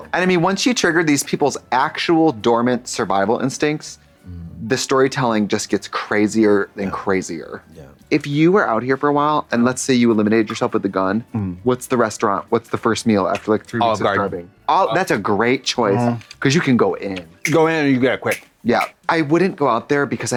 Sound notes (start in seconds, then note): 18.2 fingers snap